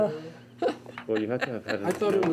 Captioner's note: group chattering